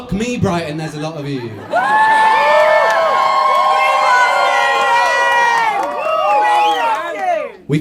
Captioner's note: cheers and laughter